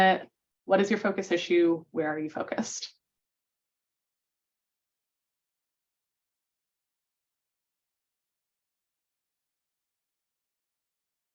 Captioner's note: pause in audio